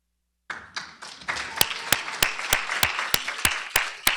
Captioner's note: applause